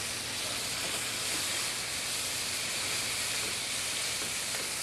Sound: sizzling

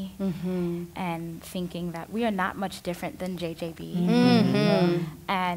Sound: others agreeing

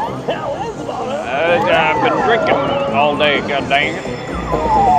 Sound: drunk mumbling

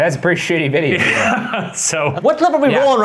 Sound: laughing

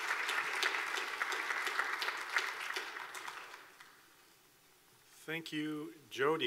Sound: clapping

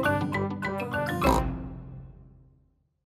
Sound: snort

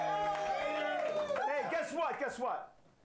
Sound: audience cheering

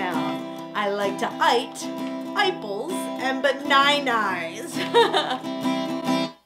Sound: laughs

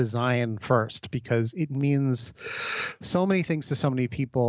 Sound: takes a deep breath

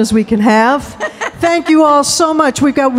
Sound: laughing

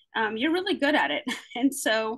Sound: chuckles

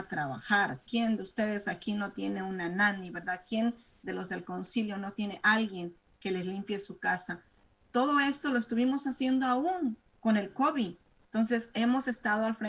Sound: speaking spanish

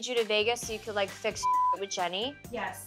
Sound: beep

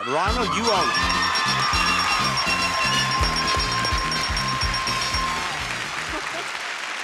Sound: audience cheering; sound effect ringing

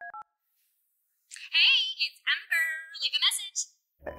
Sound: voicemail

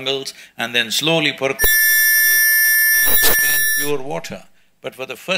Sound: audio distubance

